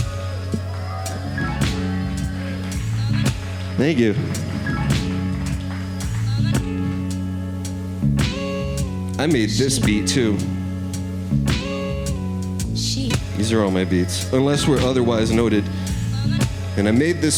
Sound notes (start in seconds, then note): 0.0 audience cheering; 3.0 gentle music; 6.1 gentle music